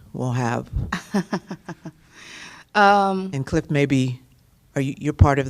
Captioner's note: laughter